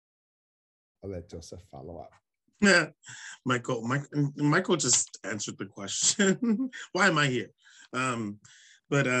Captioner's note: laughs